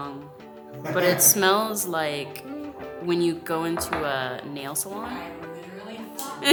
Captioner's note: soft music; laughs